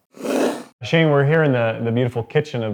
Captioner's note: whooshing